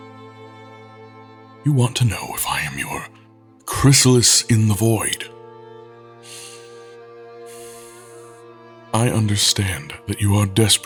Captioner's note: sighing